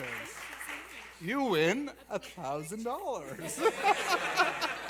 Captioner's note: laughter